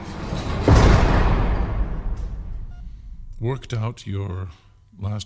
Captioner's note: rhythmic beeping; A Loud metal clang